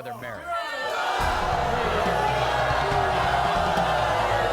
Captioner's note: audience booing